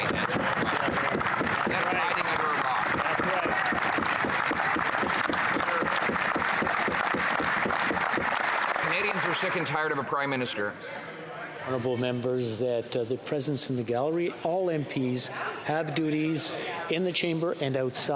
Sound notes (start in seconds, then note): 11.0 applause